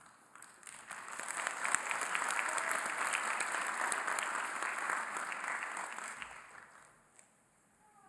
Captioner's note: applause